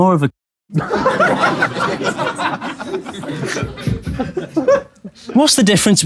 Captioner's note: people in room laughing